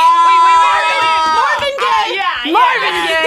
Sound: buzzer rings

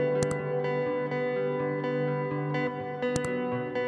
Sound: buttons clicking

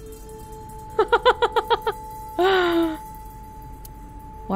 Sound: chuckles and exhales

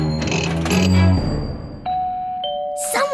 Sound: doorbell rings

